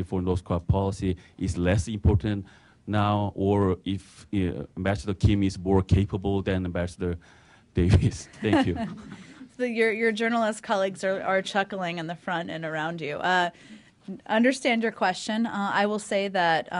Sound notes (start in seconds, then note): 8.3 laughter